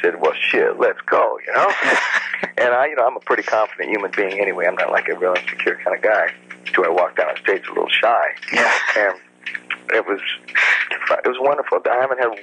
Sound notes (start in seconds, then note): 1.5 laughs